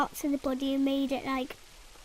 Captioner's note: none